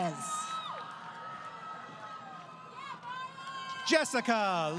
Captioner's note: crowd Cheering